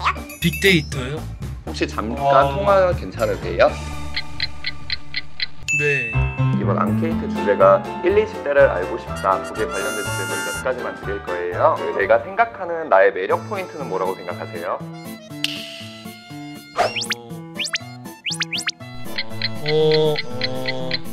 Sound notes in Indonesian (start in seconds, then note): 8.9 Hmm